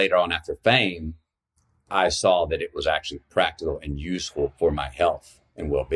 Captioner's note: none